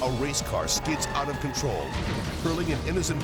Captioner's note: tires screeching